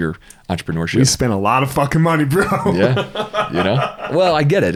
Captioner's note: laughs